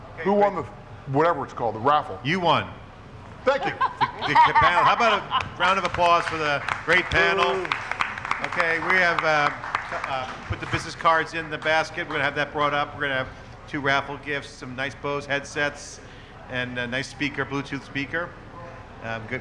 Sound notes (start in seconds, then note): 7.6 audience applauding